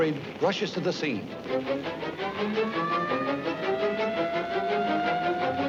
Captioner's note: sirens wailing